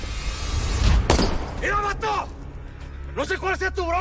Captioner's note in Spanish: Disparo